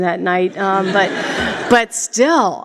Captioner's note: laughter